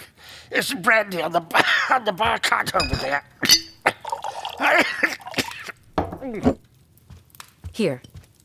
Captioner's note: coughing and choking